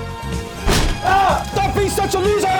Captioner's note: door bangs; screams